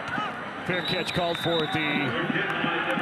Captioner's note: referee blows whistle